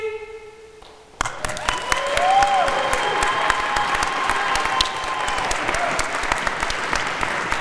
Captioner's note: audience applauding; audience cheering